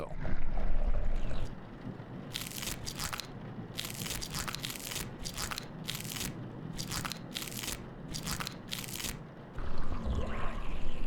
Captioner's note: crunching